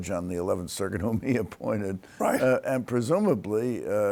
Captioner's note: chuckles